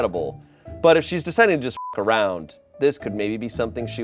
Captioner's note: beep